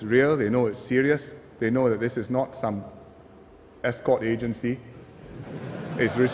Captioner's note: laughter